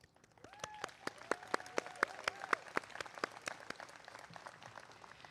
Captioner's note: applause